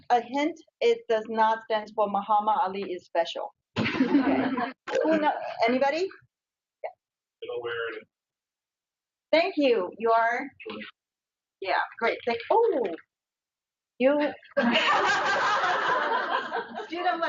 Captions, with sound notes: A hint, it does not stand for Mohammed Ali Is Special. (audience laughs) Anybody? (man speaks on speaker) Thank you. You are? (audio skips) Yeah, great, thanks. Oh. (audience laughs)